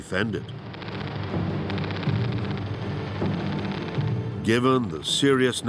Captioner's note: guns firing